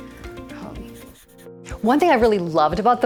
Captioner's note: pencil scratching